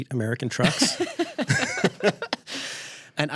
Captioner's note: laughter